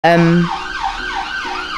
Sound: ambulance sound

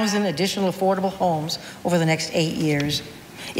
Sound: none

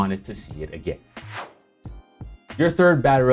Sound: whooshing

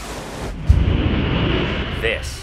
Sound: plane engine roaring

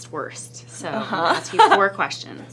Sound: laughs

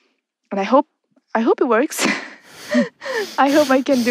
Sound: both laugh

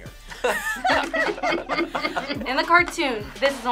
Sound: group laughs

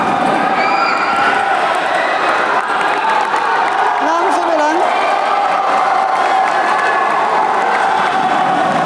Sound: applause

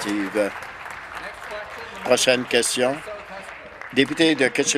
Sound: applause

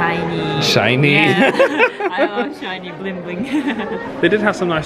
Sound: laughs

